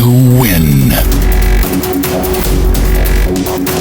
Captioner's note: strong punch